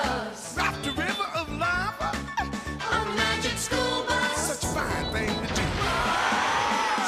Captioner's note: none